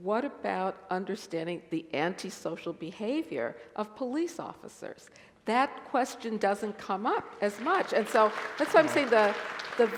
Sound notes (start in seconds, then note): 7.5 applause